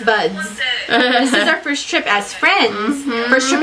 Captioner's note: laughs